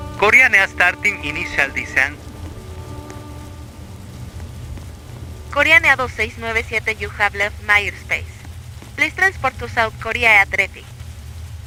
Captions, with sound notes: Korean Air Starting Initial Descent [Spanish] You Have Left My Airspace, Please Transport To South Korea Air Traffic